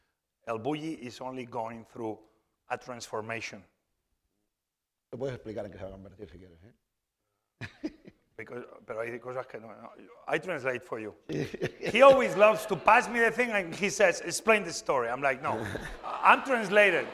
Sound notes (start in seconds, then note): 6.0 speaking spanish; 16.9 laughter